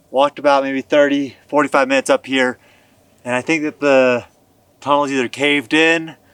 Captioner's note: none